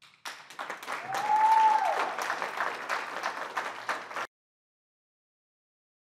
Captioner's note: applause and cheering